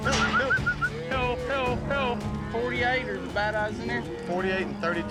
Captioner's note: calling